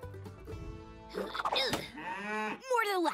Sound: grunting

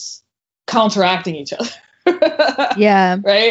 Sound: laughs

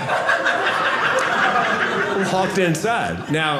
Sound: audience laughing

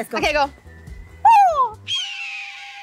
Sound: bird call

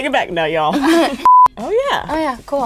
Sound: beep

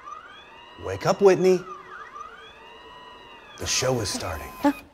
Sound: mechanical sounds play

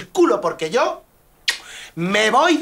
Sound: kiss

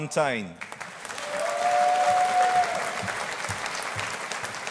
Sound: audience applauding

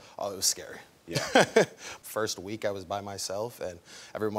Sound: laughs

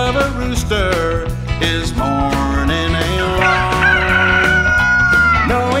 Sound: cock-a-doodle-doo!

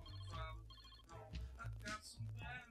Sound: phone ringing

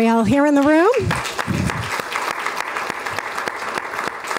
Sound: applause

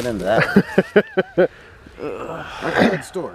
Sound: laughing

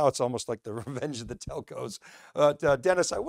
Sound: chuckles

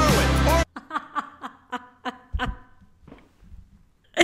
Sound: laughing

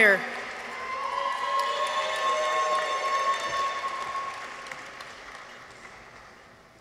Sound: audience applauds; people cheer

